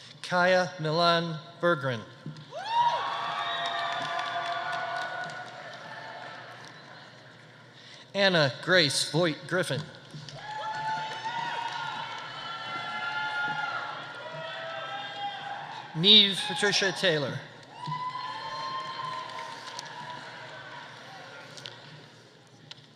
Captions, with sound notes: Kaia Milan Bergren. (audience applauding) (audience cheering) Anna Grace Voight Griffin. (audience applauding) (audience cheering) Niamh Patricia Taylor. (audience applauding) (audience cheering)